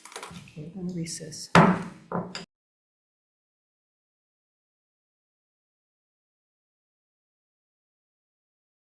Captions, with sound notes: - Okay, we're gonna recess. (gavel pounding)